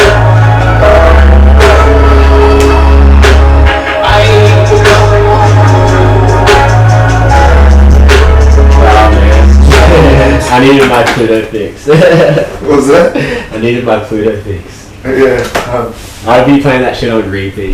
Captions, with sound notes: (upbeat music) - Oh man. (laughs) I needed my Pluto fix. - What's that? - I needed my Pluto fix. - Yeah. - I'd be playing that shit on repeat.